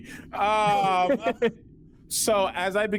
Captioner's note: laughing